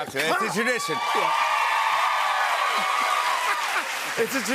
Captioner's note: cheers and applause